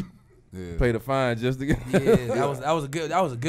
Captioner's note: laughs